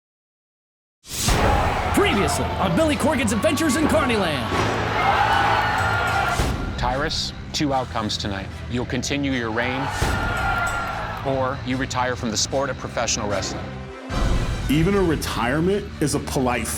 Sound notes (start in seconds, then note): 4.5 audience exclaiming